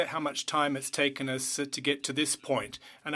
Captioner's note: speaking French